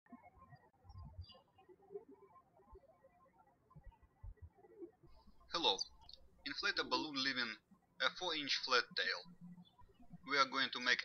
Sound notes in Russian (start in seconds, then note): 1.6 птички щебечут